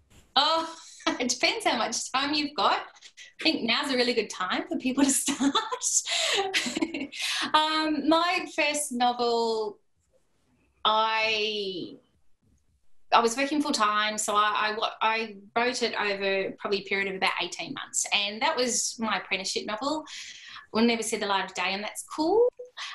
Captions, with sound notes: Oh it depends how much time you've got. I think now's a really good time for people to start. (Laughter) My first novel, I was working full time, so I wrote it over probably a period of about eighteen months. And that was my apprenticeship novel... will never see the light of day and that's cool.